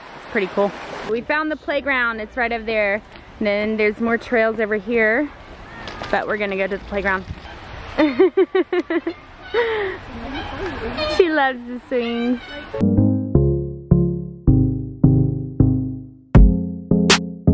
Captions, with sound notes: Pretty cool. We found the playground, it's right over there. And then there's more trails over here, but we're gonna go to the playground. (laughing) She loves the swings.